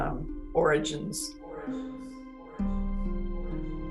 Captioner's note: "origins" echoes